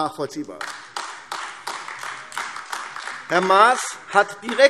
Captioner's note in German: Beifall AfD